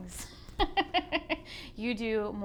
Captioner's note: laughs